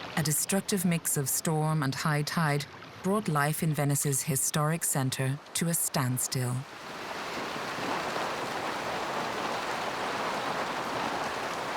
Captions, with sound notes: A destructive mix of storm and high tide brought life in Venice's historic center to a standstill. (water swooshing)